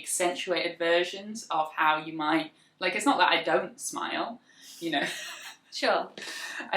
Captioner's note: laughs